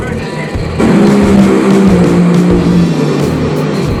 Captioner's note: engines roaring